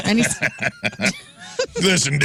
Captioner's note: laughing